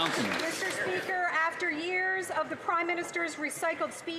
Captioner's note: some Applause